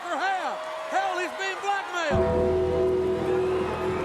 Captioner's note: bell tolls